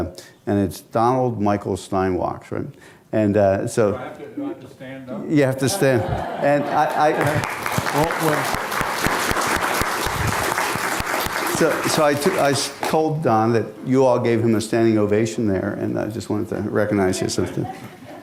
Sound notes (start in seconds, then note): 5.6 laughter; 7.1 applause